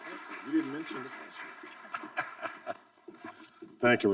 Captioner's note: audience applauding; laughing